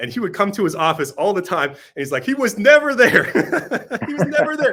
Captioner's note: laughs